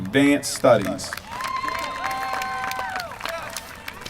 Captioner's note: applause